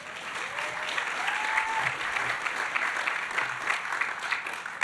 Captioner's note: audience applauding